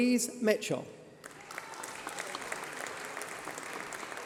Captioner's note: applause